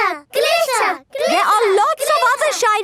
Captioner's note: chanting